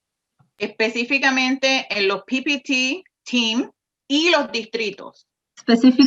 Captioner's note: speaks in foreign language